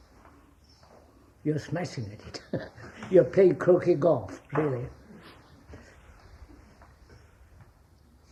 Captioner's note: laughs